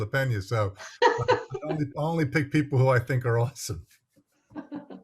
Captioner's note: laughs